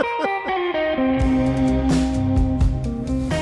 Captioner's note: laughing; bluesy rock music